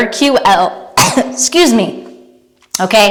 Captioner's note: cough